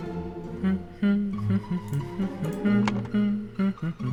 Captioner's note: humming